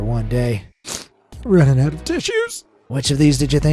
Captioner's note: sniffs